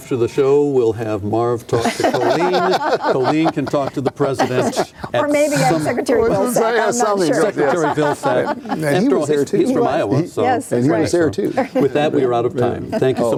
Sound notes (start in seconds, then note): 1.8 laughing